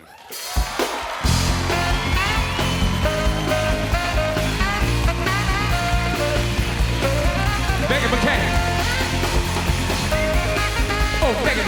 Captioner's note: cheers and applause; band playing; cheers and applause